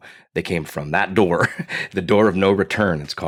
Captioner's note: laughs